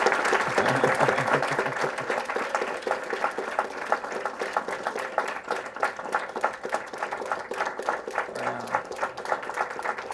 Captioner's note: applause